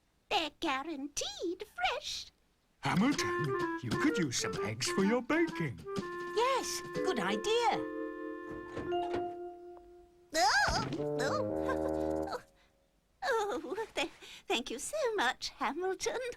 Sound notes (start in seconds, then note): 11.2 clucking and giggling